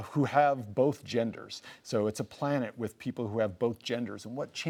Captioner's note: none